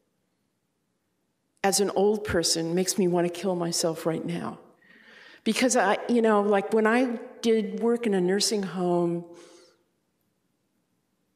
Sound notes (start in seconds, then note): none